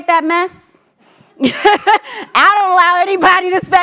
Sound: laughs

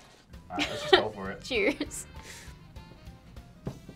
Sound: laughs

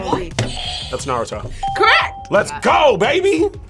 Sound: buzzer rings; bell rings

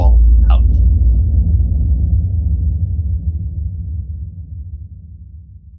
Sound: explosive sound effect

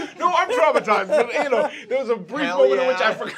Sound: laughter

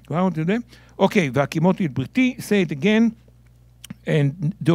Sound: speaking in Hebrew

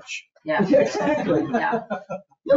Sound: people chuckle

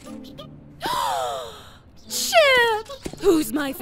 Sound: gasp

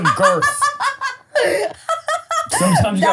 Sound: laughs

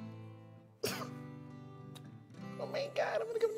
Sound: laughs

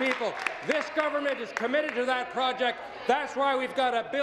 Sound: applause

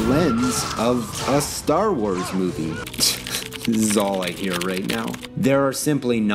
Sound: typing noises

